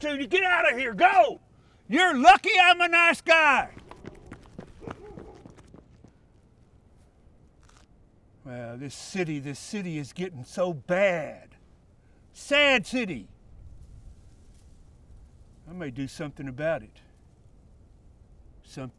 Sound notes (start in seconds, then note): 4.8 dog barking